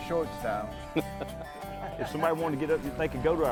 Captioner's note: men laughing